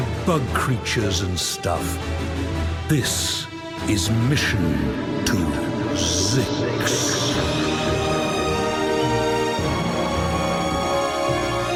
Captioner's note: echoing